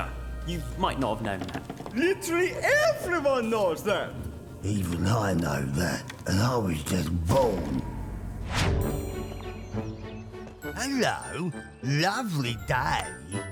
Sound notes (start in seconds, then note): 7.4 birds chirping